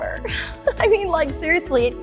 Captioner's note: laughs